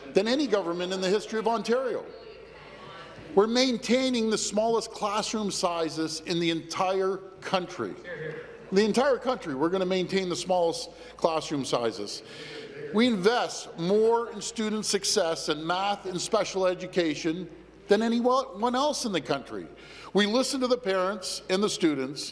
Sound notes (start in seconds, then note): none